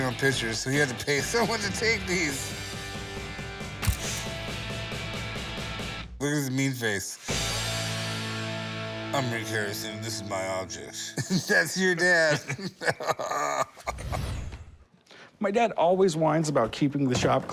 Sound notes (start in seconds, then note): 3.8 camera shutter clicks; 10.8 chuckles; 10.9 both laugh